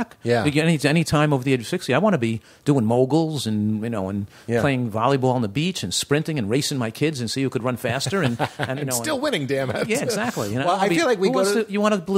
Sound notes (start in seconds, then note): 8.0 laughter